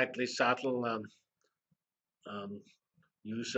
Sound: pause

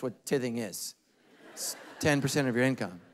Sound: congregation laughing

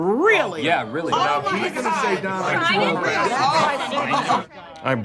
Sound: Go-Getters Club arguing noises

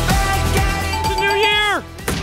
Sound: bell rings

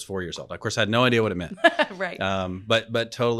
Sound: laughing

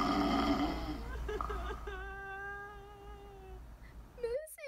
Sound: crying

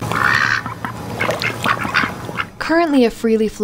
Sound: ducks quacking

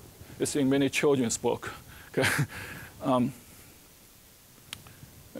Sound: chuckling

